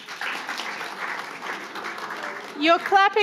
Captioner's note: audience applauding